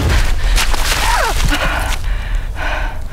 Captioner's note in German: Fabienne schreit auf